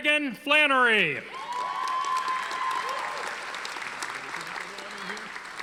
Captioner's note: audience applauding